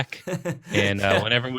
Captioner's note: laughs